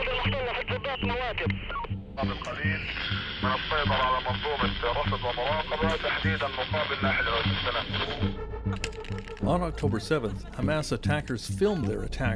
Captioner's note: speaking alternate language